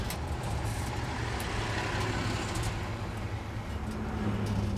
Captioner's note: van gently rattling